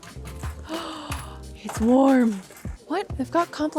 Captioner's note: gasping